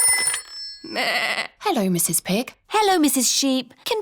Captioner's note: phone rings; bleats